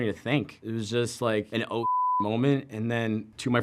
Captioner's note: beep